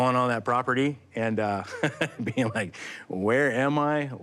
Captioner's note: laughs